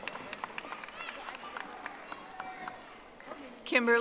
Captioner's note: audience applauding